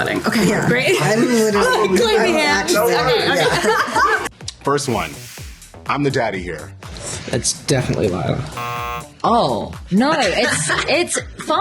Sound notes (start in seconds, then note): 3.0 laughter; 8.5 buzzer